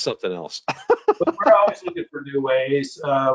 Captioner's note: laughs